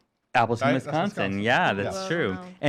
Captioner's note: voice muffled